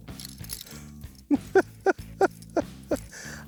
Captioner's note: laughing